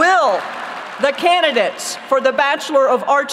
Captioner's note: applause